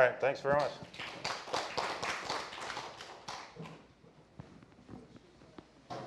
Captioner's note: applause